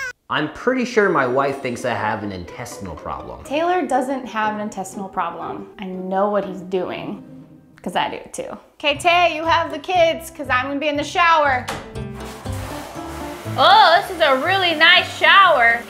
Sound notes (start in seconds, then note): 11.6 door clicks; 11.8 water spraying